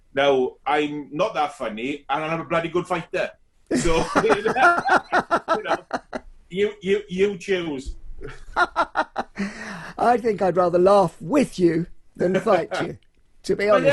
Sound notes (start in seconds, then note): 3.7 both laughing; 8.2 laughs loudly